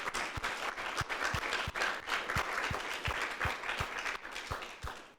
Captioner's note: audience clapping